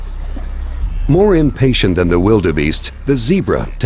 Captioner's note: tense electronic music; voiceover